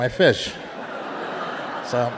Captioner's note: audience laughing